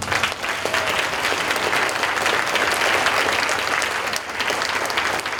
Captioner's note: audience applauding